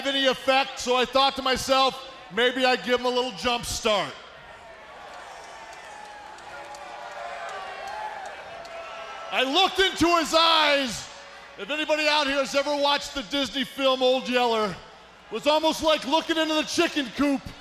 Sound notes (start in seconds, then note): 4.3 crowd cheering